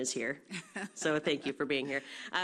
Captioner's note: laughs